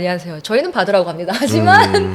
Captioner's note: haha